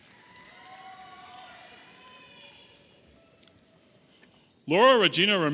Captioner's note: audience applauding and cheering